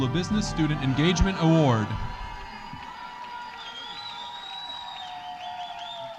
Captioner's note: audience cheering